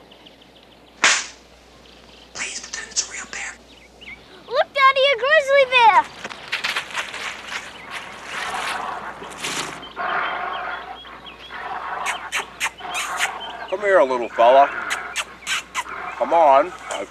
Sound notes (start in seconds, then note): 1.0 slap; 2.1 whispers; 8.8 bear snarls; 12.0 kissing noises